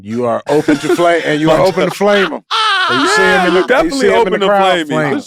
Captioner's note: Jay laughs